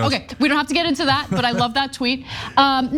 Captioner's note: laugh